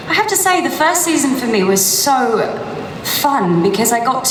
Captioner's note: none